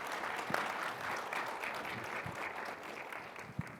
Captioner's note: audience applause